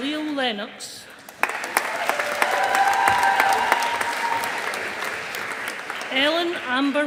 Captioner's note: audience applauding